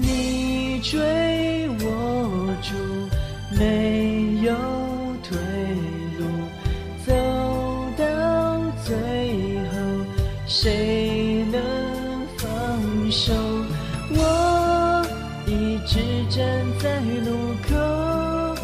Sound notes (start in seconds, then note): none